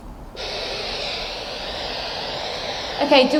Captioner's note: static hisses